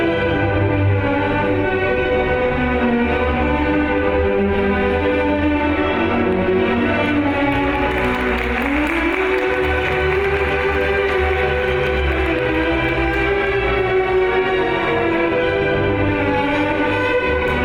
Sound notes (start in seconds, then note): 7.2 audience applauds; 14.2 lively classical music